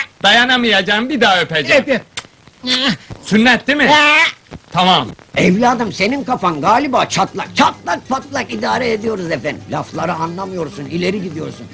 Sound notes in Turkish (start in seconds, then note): 6.7 kuklalar konuşuyor